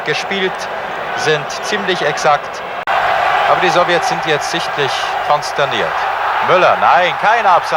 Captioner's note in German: jubel